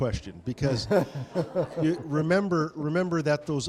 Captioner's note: audience laughing